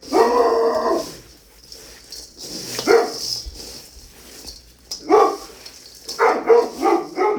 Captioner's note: Morrie barking